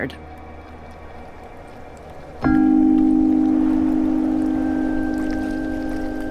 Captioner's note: thrilling music; bells chime